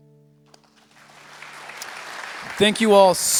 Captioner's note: applause